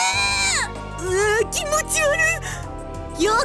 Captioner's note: shudder